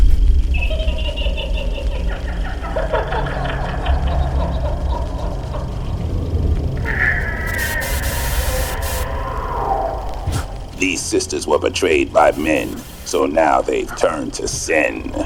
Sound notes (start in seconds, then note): 1.1 ghostly laughing; 7.8 static buzzing